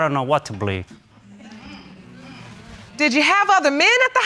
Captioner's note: audience murmuring